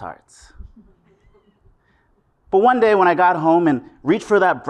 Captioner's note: laugh